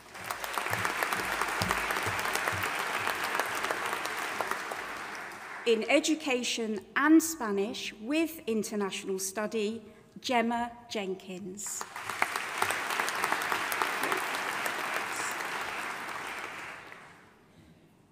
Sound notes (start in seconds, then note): 0.0 audience applauding; 11.8 audience applauding